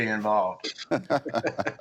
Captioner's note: laughter